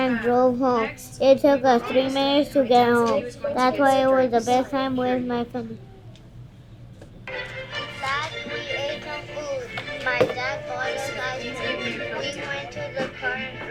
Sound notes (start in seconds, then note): 7.1 iPad playing recorded voice with classical music